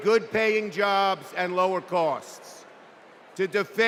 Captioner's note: cheers and applause